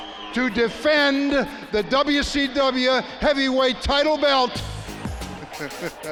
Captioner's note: laughs